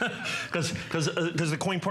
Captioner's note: laughter